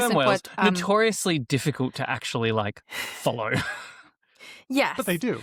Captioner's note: laughs